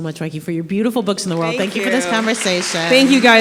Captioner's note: applause